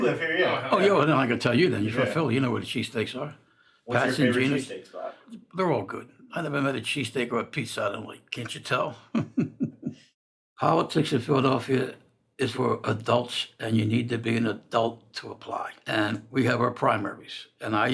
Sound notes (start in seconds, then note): 8.9 laughs